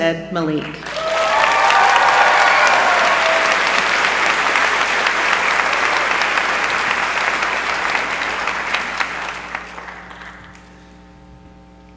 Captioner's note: applause